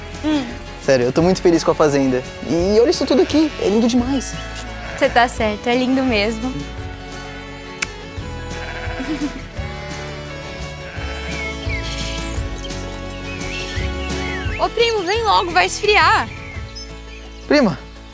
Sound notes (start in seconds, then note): 8.4 bleating; 10.7 birds